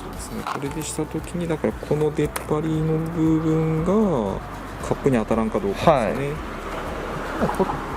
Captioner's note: laughs